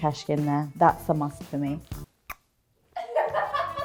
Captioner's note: lips smooch; mom 1 laughs